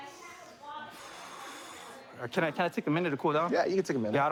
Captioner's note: exhales